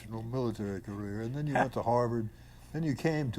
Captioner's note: laughs